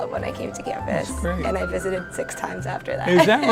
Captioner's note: laughs